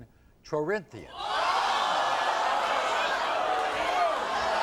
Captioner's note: audience screams